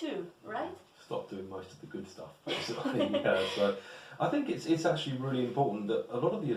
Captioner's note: laughs